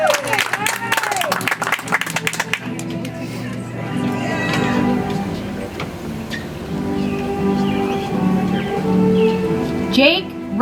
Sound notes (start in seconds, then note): 2.3 audience applauds; 7.5 soft music